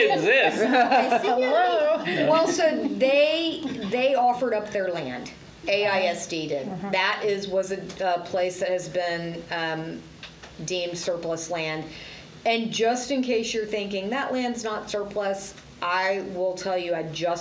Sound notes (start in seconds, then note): 0.0 laughs